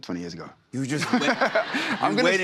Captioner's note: laughter